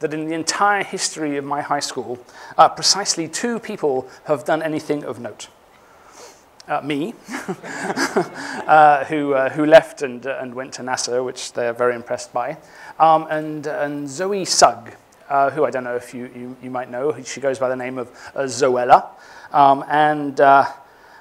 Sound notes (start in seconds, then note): 7.2 chuckles